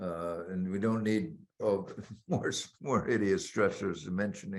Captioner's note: laughing